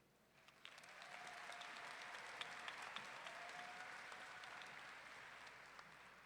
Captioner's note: audience clapping and cheering